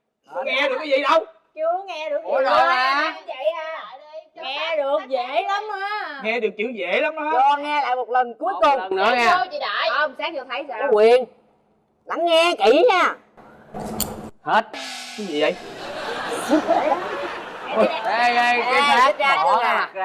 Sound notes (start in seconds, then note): 15.7 laughing